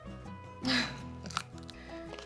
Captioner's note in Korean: 킁킁